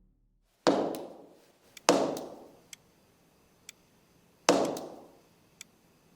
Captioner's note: clock ticking; loud banging